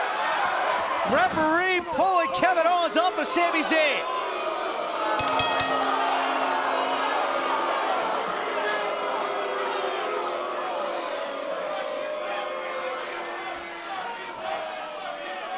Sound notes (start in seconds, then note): 4.4 cheers & boos